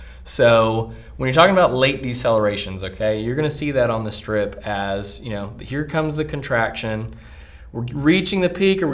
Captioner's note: none